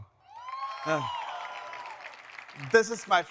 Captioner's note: audience cheering; audience applauding